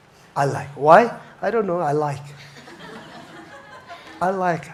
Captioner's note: audience chuckles